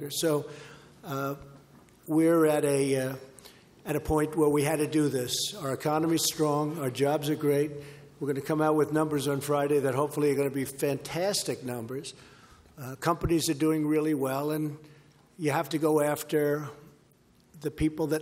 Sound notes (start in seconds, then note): none